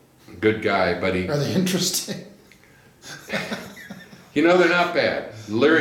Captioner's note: laughs